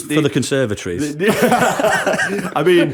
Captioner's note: laughter